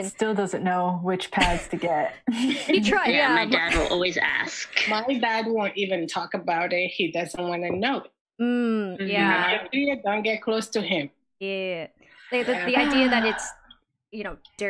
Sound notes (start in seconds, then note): 8.8 hums in agreement; 11.7 sighs